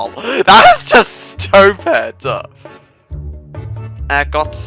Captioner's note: laugh.exe